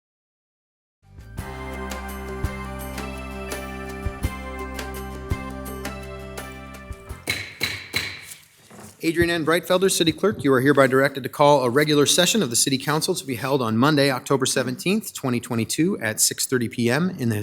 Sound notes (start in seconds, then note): 1.2 bright music; 7.2 gavel banging